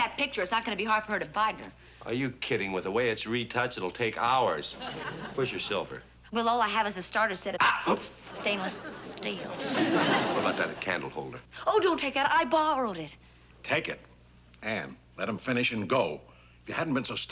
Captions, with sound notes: it's not gonna be hard for him to find her. Are you kidding? With the way it's retouched, it'll take hours. Where's your silver? Well, all I have is a starter set, it's-- -(shouts) -Stainless steel. What about that candle holder? Oh, don't take that! I borrowed it. Take it. Ann, let him finish and go. If you hadn't been so stubborn